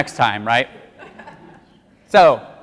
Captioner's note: audience laughs